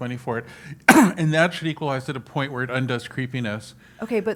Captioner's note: cough